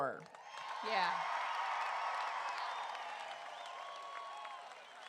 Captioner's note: crowd cheering